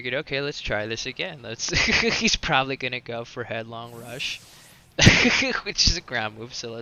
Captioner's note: laughs